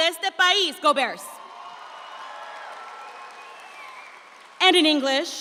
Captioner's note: audience cheers